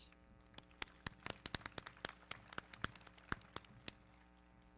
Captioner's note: everybody clapping